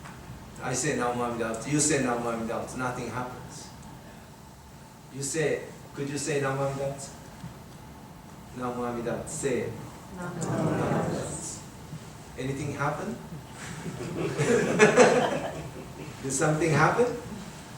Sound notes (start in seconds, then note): 13.8 everyone laughing